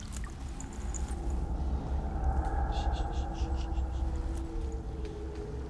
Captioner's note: creepy, distant howl; shushes quietly